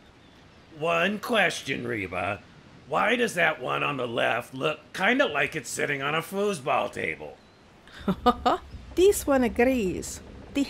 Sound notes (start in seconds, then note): 7.9 laugh